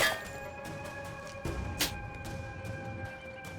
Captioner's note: spits